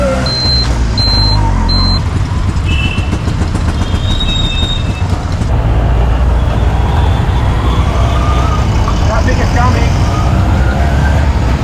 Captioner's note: traffic